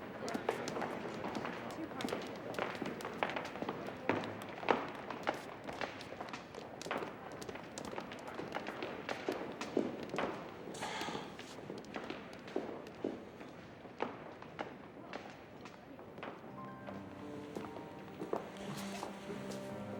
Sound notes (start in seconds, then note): 10.8 sighs; 16.4 slow instrumental music playing